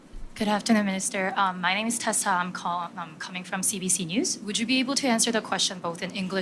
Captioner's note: speaking French